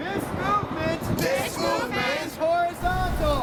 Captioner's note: crowd Responds